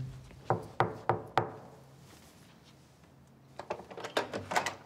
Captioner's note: hand knocking; door clattering